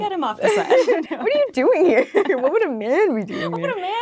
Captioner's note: laughing